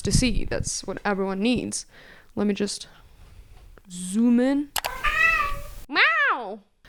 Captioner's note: meow